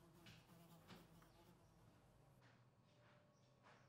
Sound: fly buzzing

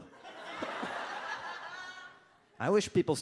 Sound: audience laughs

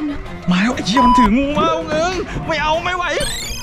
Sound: pat

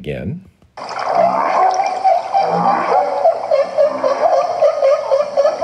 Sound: humpbacks chatting

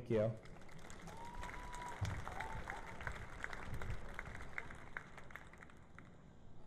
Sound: cheering and Applause

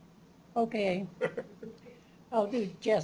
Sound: chuckles

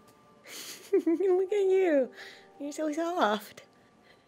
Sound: chuckles

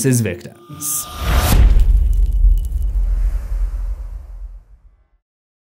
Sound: impact

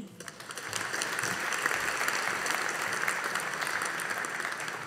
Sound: audience applauding

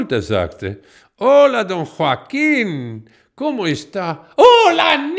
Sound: in Spanish

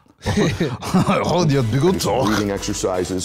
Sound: French accent

